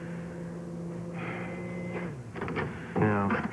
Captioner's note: oven beeps